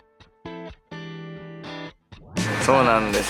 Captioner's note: clap